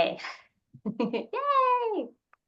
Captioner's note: laughs